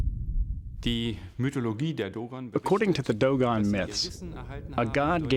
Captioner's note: non-english speech